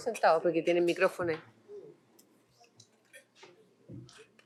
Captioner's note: non-english speech